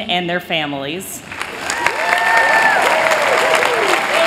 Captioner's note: applause